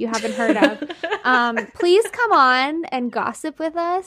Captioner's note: laughing